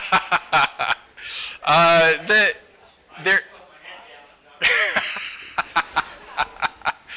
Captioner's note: laughter